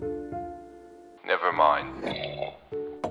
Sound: sip

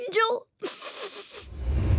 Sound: sniffles

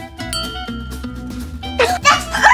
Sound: ball tinging

